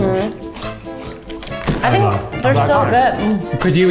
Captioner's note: crunching